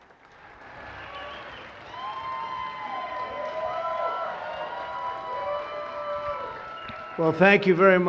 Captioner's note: cheers and applause